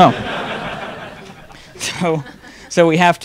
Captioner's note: audience laughing